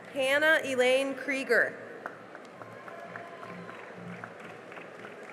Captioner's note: cheering and applause